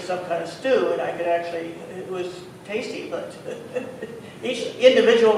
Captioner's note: laughs